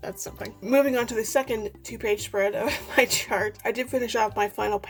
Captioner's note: laughing